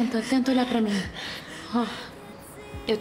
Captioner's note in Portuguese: valentina respirando tensa